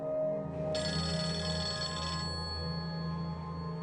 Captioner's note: phone ringing